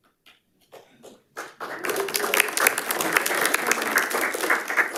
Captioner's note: audience applauds